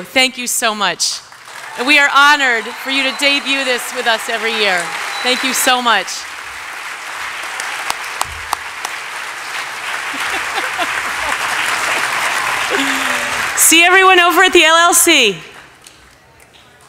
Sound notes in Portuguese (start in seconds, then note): 7.9 aplausos